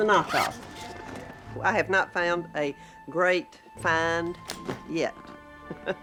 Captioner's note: chuckles